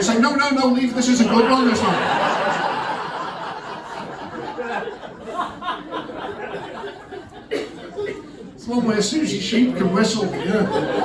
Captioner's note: laughter